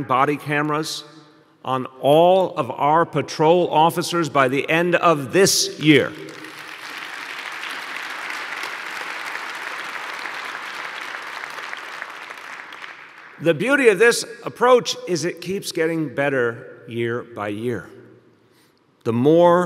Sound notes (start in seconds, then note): 12.7 applause